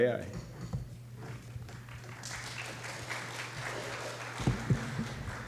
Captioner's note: applause